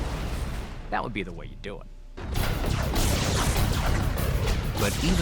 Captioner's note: space fight sound